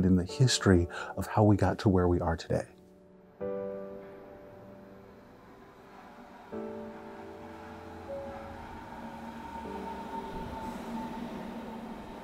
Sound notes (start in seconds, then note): 3.7 car engine revving